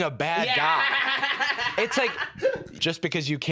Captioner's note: laughs